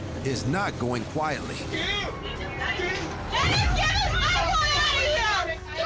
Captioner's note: overlapping shouting, cursing